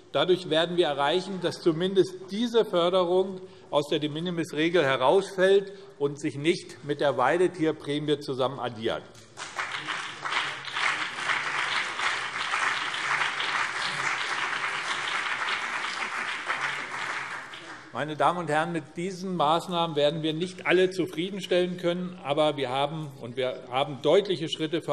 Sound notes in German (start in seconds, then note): 9.2 Beifall BÜNDNIS 90/DIE GRÜNEN und CDU